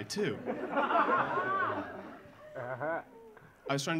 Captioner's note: audience laughing